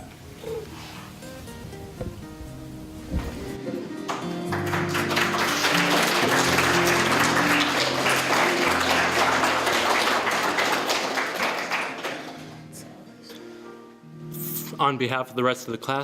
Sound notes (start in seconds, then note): 4.0 applause